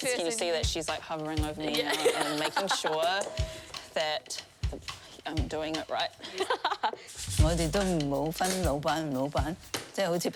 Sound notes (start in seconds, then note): 1.7 laughter; 1.7 both laugh